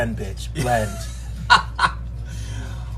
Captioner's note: laughs